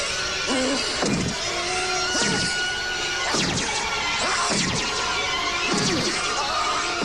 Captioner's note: screams